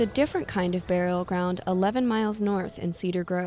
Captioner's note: birds chirping; gentle music